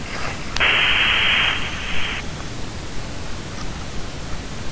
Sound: breathing loudly

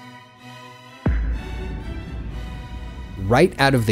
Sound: classical orchestral music; hi-tech impact sound

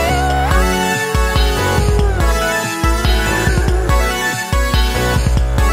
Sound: awooo~

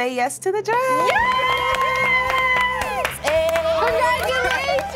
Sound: applause

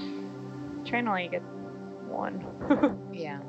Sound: laughs

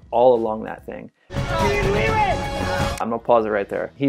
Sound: yelling

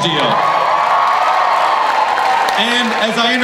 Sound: crowd cheers

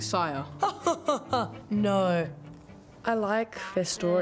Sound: laughs

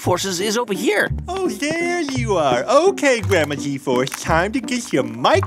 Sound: soundbite of footsteps

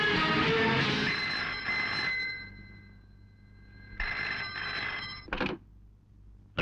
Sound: phone ringing

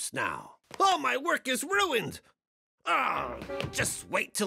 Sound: groaning

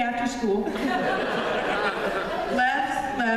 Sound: laughter

